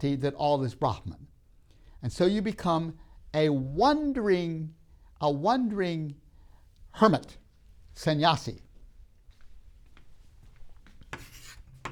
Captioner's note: marker scribbles